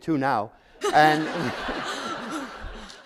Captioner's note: laughter